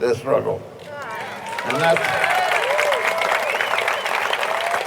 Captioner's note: audience cheering